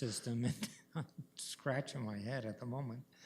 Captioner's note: laughs